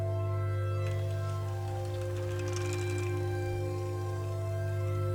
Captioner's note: bike clattering